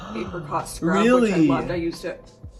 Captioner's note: gasps